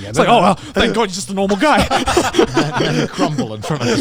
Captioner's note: laughing